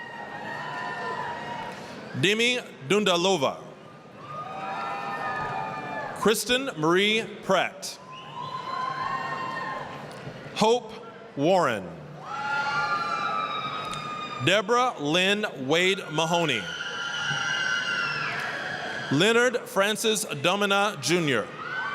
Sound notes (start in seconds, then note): 0.0 applause, cheering; 4.2 applause, cheering; 8.5 applause, cheering; 12.5 applause, cheering; 17.0 applause, cheering